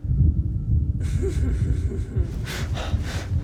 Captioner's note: laughing